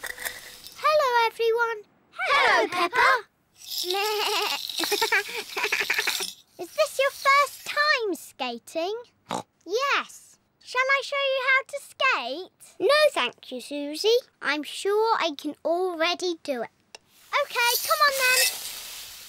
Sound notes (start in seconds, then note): 3.3 bleats; 9.1 snorts